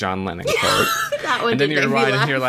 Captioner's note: laughs